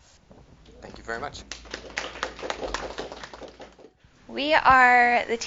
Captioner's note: applause